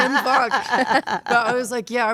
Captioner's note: Stephanie and Elyse laughing